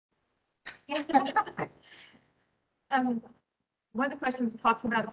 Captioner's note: nurses laughing